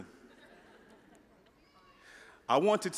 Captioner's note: audience laughing